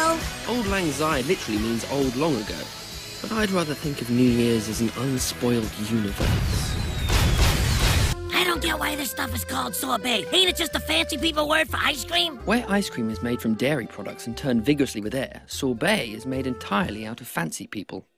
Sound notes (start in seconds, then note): none